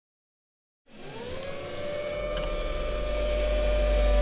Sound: mechanical arm whirring

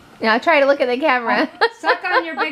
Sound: laughs

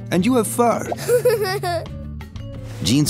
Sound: giggles

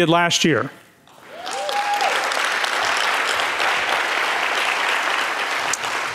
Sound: audience cheering and clapping

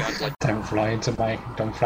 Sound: faux Indian accent

